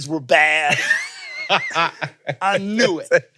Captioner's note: laugh